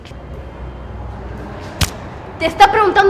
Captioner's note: indistinct chatter